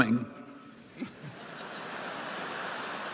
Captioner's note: laughter